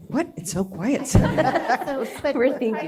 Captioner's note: laughter